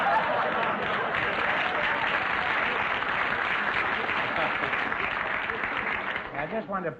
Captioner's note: audience laughter; applause